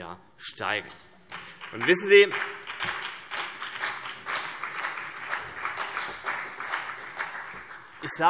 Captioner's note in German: Beifall BÜNDNIS 90/DIE GRÜNEN und vereinzelt CDU